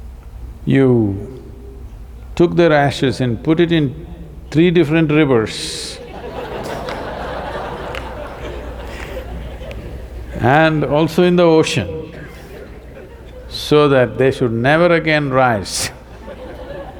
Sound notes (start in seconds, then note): 6.0 laughter; 12.4 laughter; 16.0 laughter